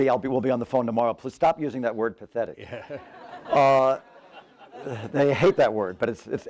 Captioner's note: laughter